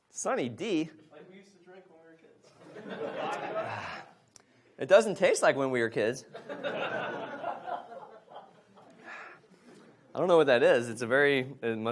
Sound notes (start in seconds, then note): 2.6 audience laughs; 6.3 audience laughs